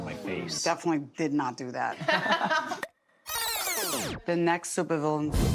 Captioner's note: laughter; tape squealing